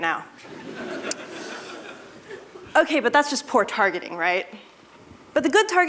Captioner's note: laughter